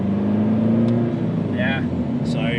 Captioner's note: vehicle accelerating, engine revving